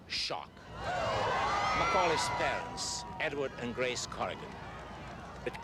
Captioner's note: crowd screams